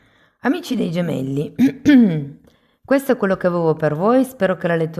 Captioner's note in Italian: schiarire la voce